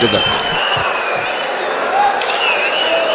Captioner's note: wild applause and cheering for 22 seconds